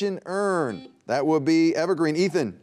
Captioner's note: buzzer beeping